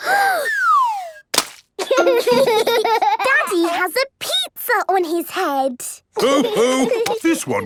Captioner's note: Peppa gasps; splat